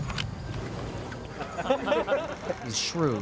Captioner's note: laughter